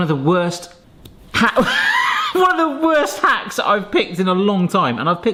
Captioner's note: laughing